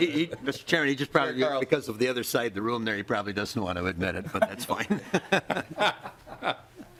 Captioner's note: laughing